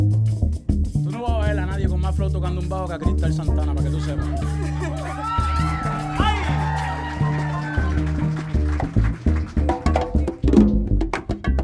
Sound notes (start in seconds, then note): 4.0 audience cheering